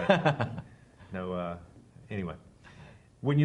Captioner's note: laughs